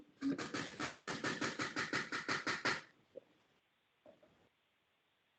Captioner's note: listener tapping loudly